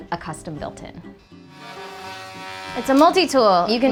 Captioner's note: multi-tool buzzing